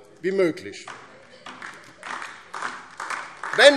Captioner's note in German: Beifall DIE LINKE